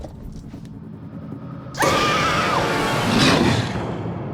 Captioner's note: roars